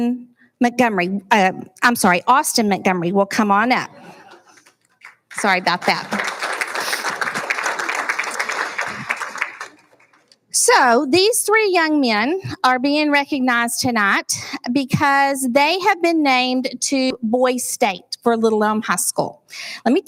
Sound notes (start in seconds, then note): 7.8 applauding